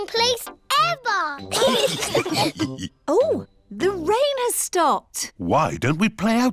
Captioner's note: laughter